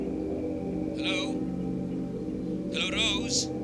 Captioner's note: Dr. Shah on phone